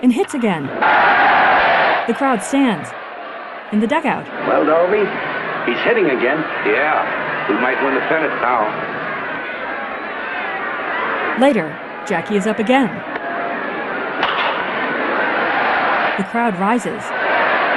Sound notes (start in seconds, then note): 0.1 crowd cheering; 9.4 frenzied crowd noise; 14.7 crowd cheering